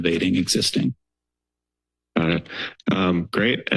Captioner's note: silence